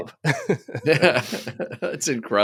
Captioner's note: laughing